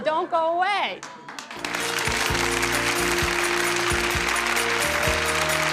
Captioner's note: applause and upbeat music